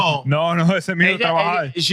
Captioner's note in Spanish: Hablando en idioma extranjero